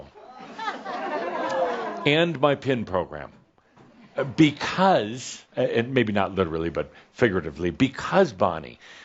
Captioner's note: some chuckles